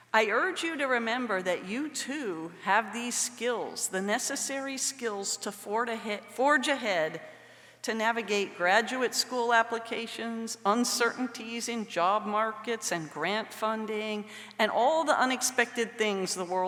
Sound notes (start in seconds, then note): none